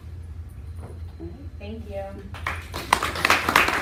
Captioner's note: applause